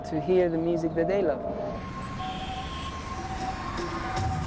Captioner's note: sirens wailing